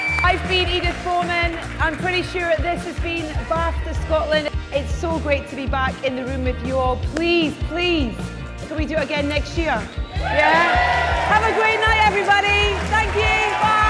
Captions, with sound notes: I've been Edith Bowman, I'm pretty sure this has been BAFTA Scotland. It's so great to be back in the room with you all Please, please - can we do it again next year? (audience cheers) Have a great night everybody, thank you. Bye.